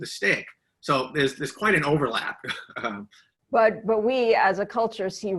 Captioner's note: laughs